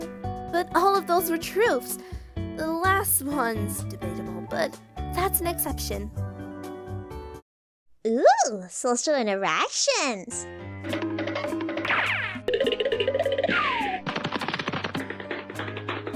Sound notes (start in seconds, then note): 10.5 even more funky noises